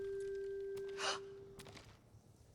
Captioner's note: gasp